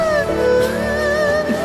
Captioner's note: moan